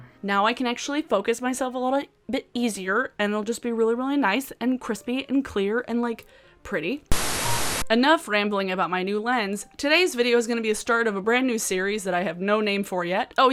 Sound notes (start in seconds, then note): 7.1 static hissing